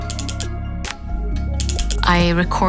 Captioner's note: quiet clicking